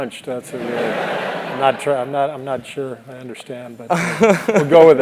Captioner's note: laugh